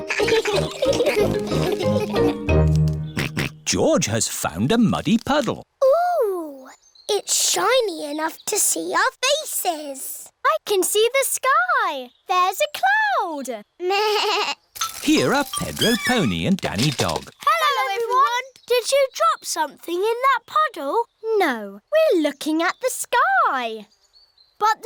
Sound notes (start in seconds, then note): 0.0 all laugh; 3.4 snorts; 14.3 bleats